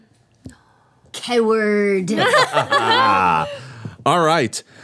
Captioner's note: everyone laughing